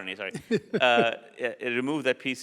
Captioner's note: laughs